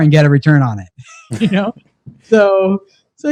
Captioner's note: laughs